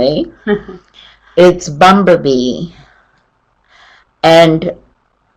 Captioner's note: chuckles